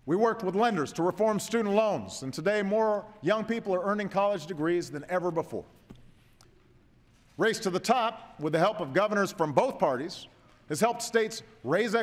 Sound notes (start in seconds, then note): none